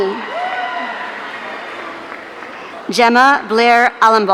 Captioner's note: audience cheering